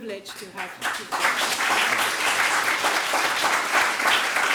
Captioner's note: audience clapping